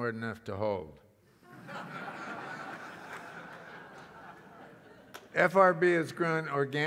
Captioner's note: laugh